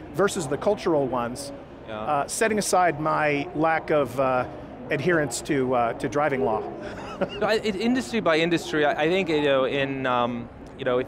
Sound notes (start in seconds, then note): 6.8 laughs